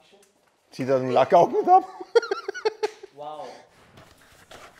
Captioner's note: Lachen